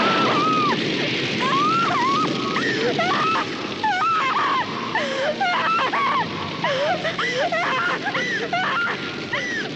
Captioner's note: flames whoosh, Lisa screams; Lisa cries